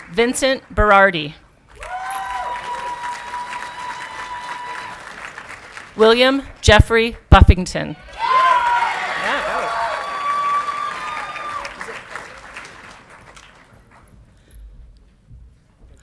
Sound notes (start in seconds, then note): 1.6 audience clapping and cheering; 8.0 audience clapping and cheering